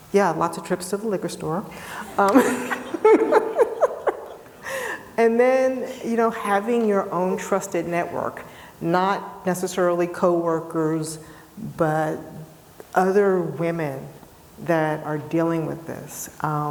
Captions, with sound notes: Yeah, lots of trips to the liquor store. (all laughing) And then, you know, having your own trusted network, not necessarily coworkers, but other women that are dealing with this.